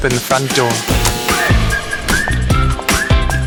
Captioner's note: door opening sound